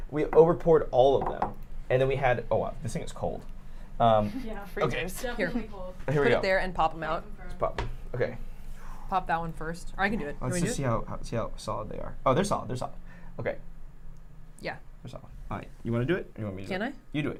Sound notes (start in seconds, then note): 4.1 chuckles